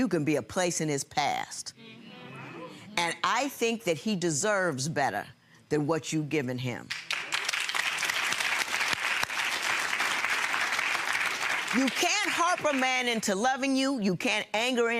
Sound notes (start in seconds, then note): 1.8 audience murmuring in agreement; 6.9 audience applauding